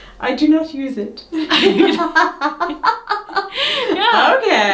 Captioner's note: laughing